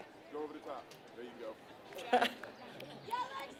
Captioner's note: laugh